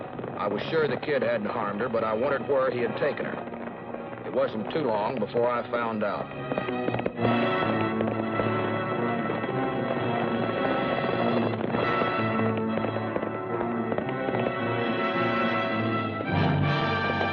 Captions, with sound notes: I was sure the Kid hadn't harmed her, but I wondered where he had taken her. It wasn't too long before I found out. [ DRAMATIC MUSIC ] [ HORSE GALLOPING ]